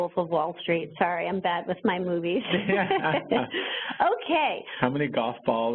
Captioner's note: laughs